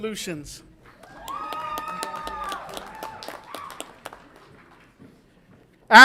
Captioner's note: audience applauds and cheers